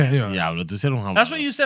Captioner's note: speaking In Foreign Language